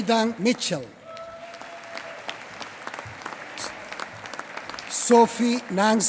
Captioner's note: applause